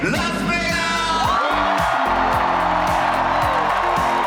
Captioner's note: crowd cheers